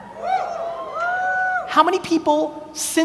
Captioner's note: audience cheers